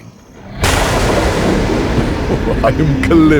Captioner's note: thunder